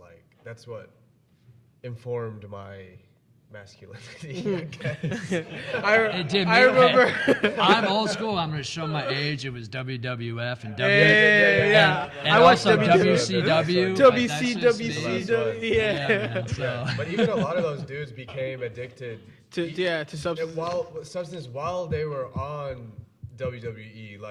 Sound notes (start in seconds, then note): 4.0 all laughing; 4.0 laughing; 13.2 all speaking and laughing at once